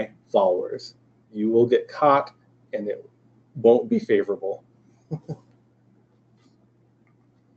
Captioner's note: laughs